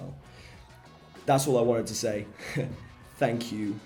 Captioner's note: taz chuckles